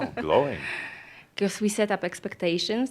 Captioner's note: she chuckles